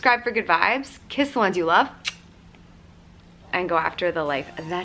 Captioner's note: kiss sound